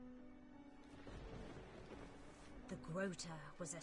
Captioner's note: distant thunder